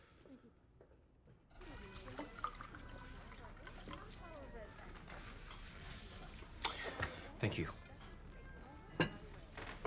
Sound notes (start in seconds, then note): 4.7 indistinct chatter